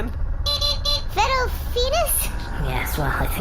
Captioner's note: beeping